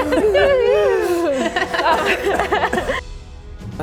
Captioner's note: laughing